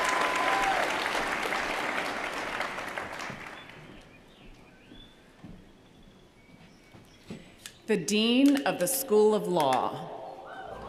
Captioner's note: cheers & applause